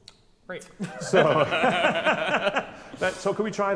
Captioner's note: laughs